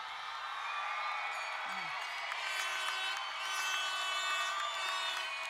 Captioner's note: crowd cheering and applauding